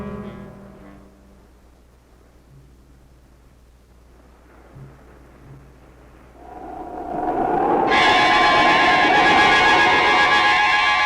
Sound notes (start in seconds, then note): 6.3 wind blowing eerily; 6.4 suspenseful music